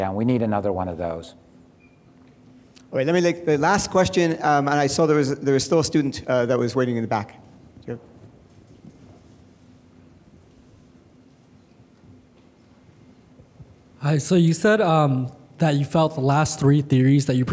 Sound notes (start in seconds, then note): 3.3 male Voice